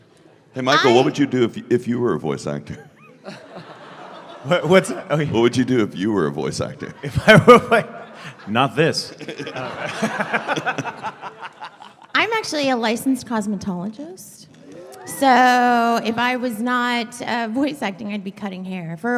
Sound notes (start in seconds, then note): 2.8 snickers; 7.0 laughing; 8.9 laughter; 9.6 cackling; 14.1 sound of people being impressed